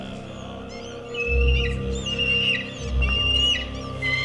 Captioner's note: eagle cawing